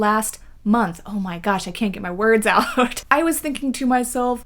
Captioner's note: laughs